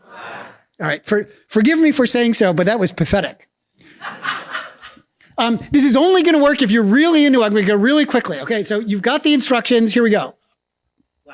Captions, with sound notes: - [Crowd] Black. - All right. Forgive me for saying so, but that was pathetic. (laughs) This is only gonna work if you're really into it. I'm gonna go really quickly. Okay. So you've got the instructions, here we go.